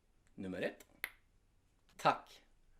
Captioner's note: click sound:Nt!